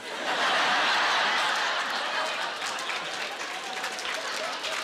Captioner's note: laughing